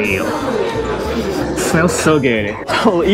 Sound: sniffs

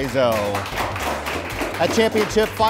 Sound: applause

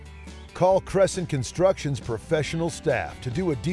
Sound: voiceover

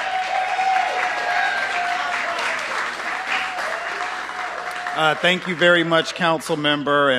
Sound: cheers and applause

